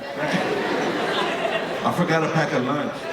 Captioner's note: audience laughing